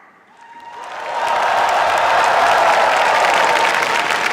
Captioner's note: cheers, applause